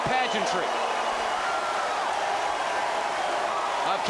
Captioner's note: crowd cheering